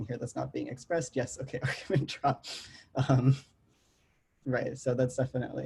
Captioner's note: chuckles